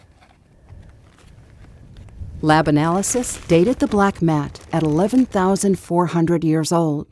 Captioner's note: equipment rattling